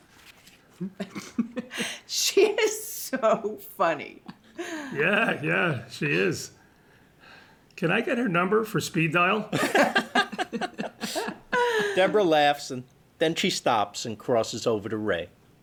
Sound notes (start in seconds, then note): 9.4 laughs